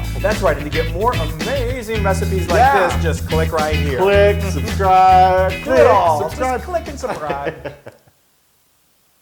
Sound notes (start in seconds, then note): 3.7 laugh